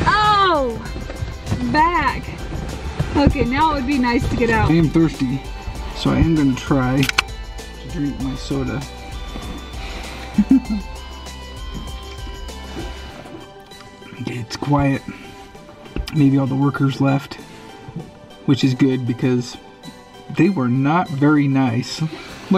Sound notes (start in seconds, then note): 7.0 soda can opens; 10.2 chuckles